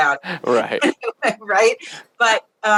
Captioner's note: both laugh